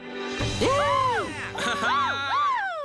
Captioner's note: cheering